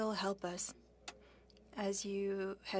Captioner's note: speaking French